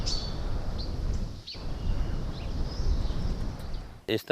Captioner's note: birds singing